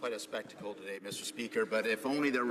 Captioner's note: chatter